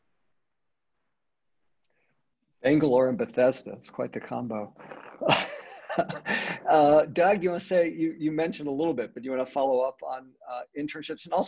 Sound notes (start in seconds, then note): 4.8 laughs